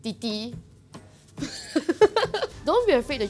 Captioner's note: laughs